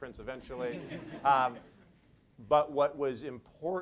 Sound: audience laughs

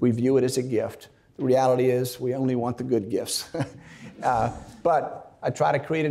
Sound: chuckles

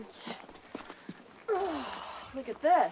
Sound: grunting

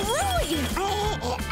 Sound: laughing

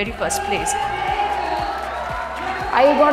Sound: cheering

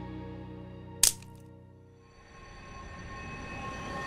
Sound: tree branch snapping; ominous music

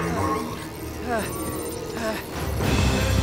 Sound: groaning

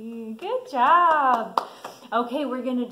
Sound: clapping

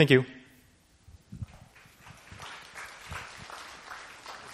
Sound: applause

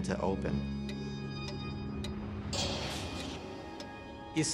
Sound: clocks ticking

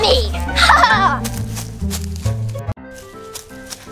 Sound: Gabby Gabby laughs; playful music

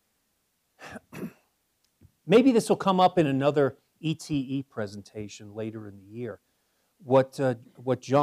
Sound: cough

